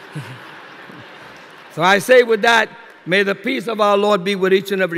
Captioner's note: laughter